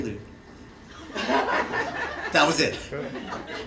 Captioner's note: laughter